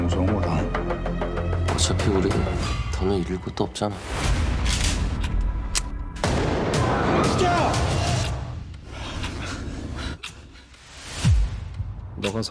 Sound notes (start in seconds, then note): 4.6 rifle loading; 6.2 gunshots; 7.4 foreign language; 7.4 shouting; 8.7 heavy breathing; 12.2 foreign language